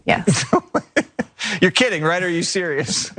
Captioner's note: laugh